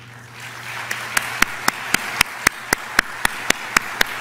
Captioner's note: applause